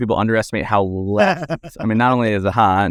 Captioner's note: laughs